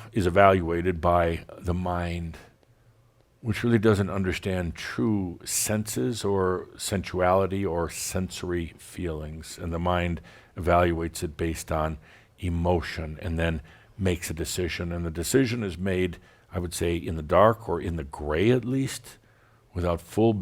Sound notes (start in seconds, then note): none